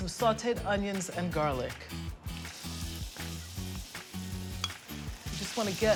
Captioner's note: sizzling